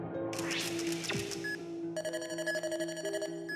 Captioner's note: whooshes; beeps